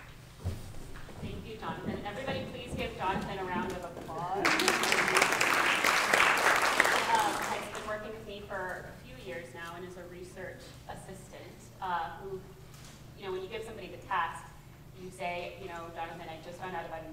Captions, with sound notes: Thank you, Jonathan. And everybody please give Jonathan a round of applause. [APPLAUSE] He has been working with me for a few years now and is a research assistant, who when you give somebody the task, and you say Jonathan I just found out